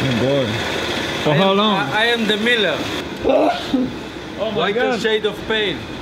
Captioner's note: sneeze